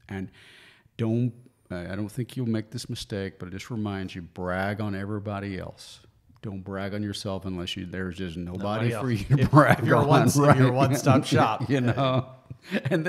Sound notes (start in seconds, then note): 9.0 laughs